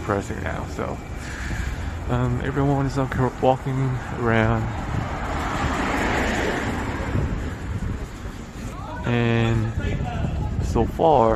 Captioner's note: car sounds; people yelling in the background